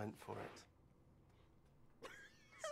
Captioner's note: watson laughing